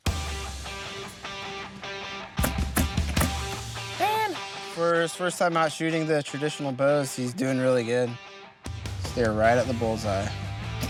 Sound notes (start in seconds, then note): 0.2 rock music; 2.4 thumping